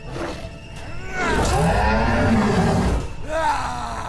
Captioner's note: Dweller roaring